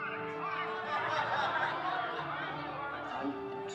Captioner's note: audience laughing